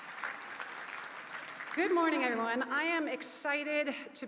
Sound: applause

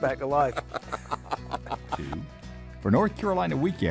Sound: laughing

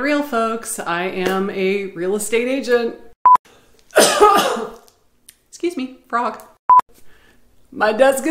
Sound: coughing

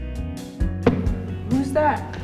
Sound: foot stomps

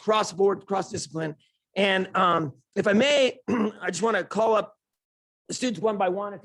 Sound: ahem

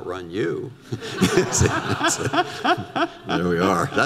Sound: audience laughter

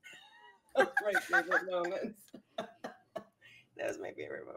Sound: laughing; laughs

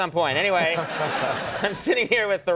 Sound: The Rock laughs

